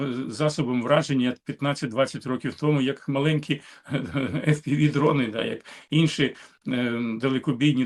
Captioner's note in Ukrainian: сміх